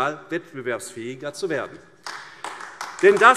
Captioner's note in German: Beifall AfD